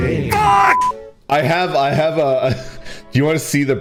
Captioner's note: laughs